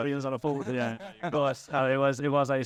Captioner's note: laughing